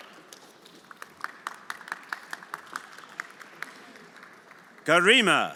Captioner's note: everyone applauding